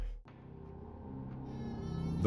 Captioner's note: door creaking